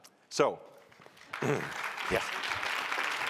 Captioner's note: applause